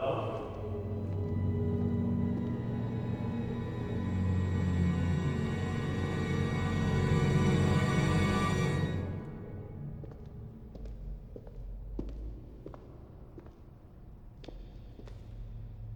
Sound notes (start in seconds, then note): 1.8 foreboding eerie music intensifies; 9.8 footsteps tapping